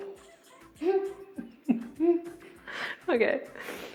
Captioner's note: laughing